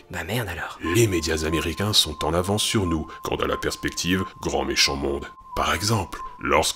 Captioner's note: french